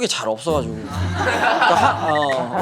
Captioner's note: laughs